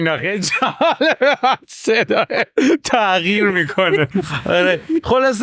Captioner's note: laughs